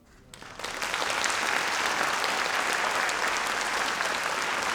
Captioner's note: audience applauds